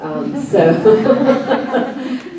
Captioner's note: laughs